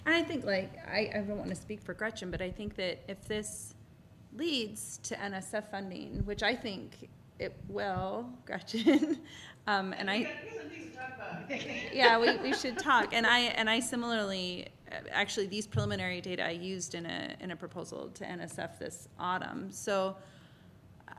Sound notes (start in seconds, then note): 9.3 laughs; 11.5 laughter